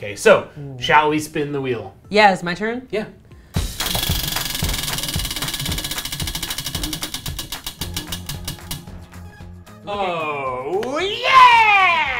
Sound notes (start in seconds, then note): 3.8 wheel clicking